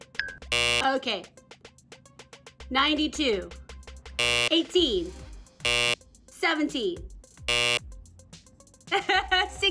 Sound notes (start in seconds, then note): 0.4 buzzer blares; 4.2 buzzer blares; 5.6 buzzer blares; 7.4 buzzer blares